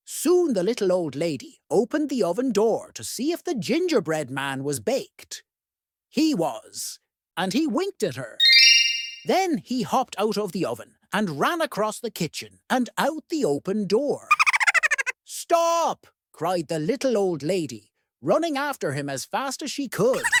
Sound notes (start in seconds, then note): 8.4 twinkle; 14.3 high-pitched laugh